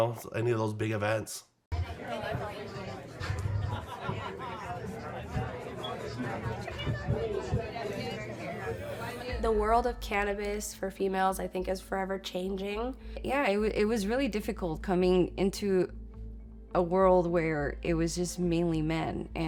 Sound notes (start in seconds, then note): 1.8 people murmur